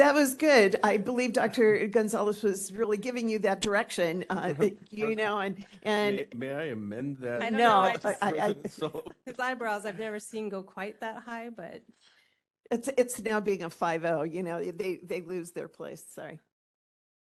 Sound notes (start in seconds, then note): 7.8 laughing